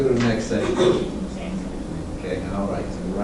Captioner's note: faint speaking by student